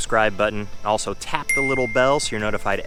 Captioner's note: bell chimes